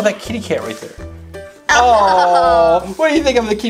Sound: Mr. Engineer and The Assistant chuckle

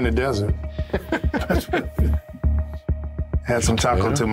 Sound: Jon laughs

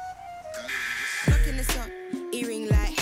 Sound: alarm blaring

